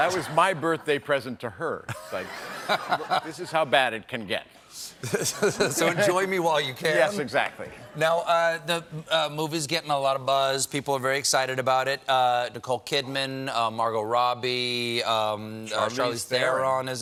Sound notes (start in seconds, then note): 1.9 laughter